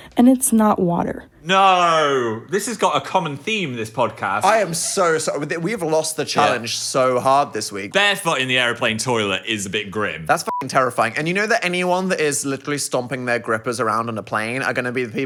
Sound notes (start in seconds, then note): 10.4 beep